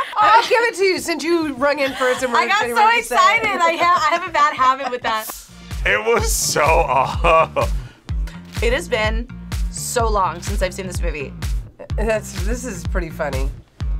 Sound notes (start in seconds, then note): 0.0 laughs; 6.8 laughs